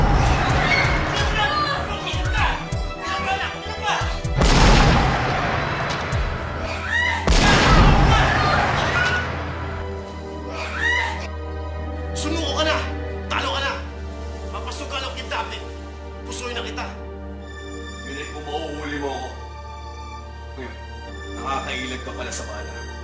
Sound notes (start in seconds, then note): 4.7 gunshot; 6.6 Liway screams; 10.5 Liway screams